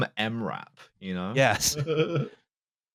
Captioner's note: chuckles